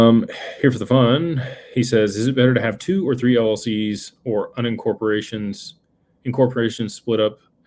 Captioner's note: sighs